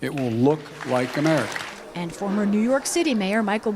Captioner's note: applause